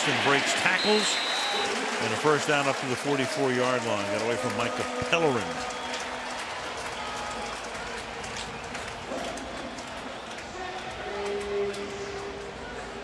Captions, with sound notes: And then Colston breaks tackles. [whistle] And a first down up to the 44-yard line. Got away from Micah Pellerin. [pa announcement]